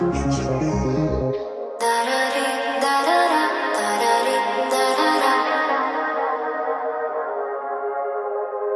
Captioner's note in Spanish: tarareando